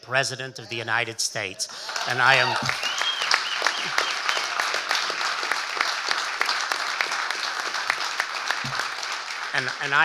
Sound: audience cheering and applauding

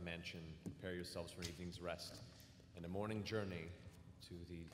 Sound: none

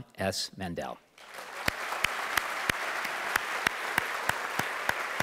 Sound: audience applauding

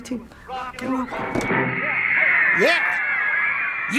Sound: fangirls scream

